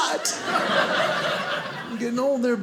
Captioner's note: audience laughing